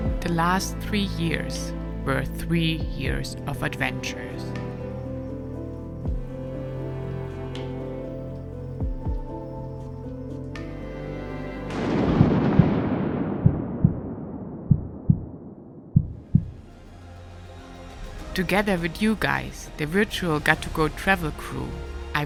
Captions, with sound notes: The last three years were three years of adventures. (upbeat foreboding music) (lightning crashing) (heart beating) Together with you guys, the virtual Got2Go travel crew,